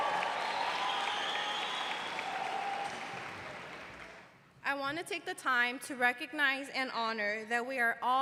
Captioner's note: cheers and applause